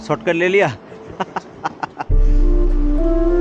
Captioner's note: laughing